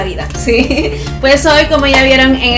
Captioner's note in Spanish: risas